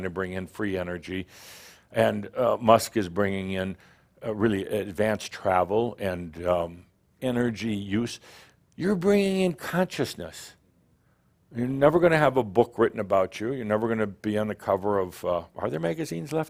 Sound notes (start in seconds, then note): none